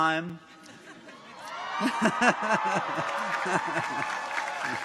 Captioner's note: people chuckle; chuckles; audience applauds; people cheer